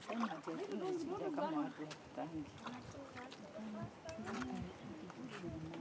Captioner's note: woman speaking foreign language